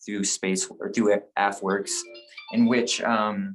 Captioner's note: phone rings